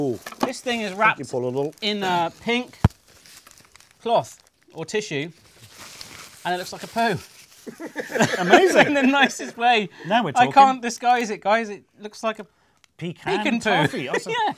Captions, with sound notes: This thing is wrapped in a pink cloth or tissue. And it looks like a poop. (laughs) I can't disguise it guys it looks like a pecan poo.